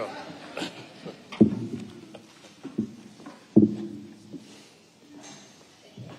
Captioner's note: objects on podium clattering